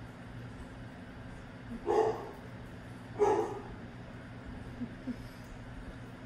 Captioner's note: distracted by the dog barking